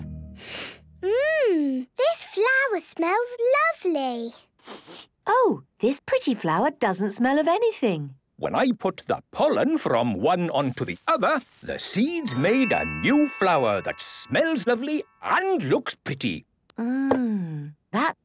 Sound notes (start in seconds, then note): 0.5 sniffs; 4.6 sniffs